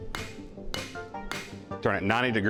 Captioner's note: hammer whacks